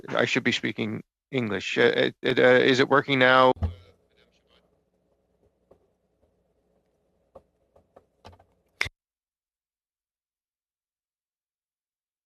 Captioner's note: speaking French